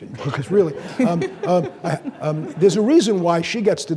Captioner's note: audience laughing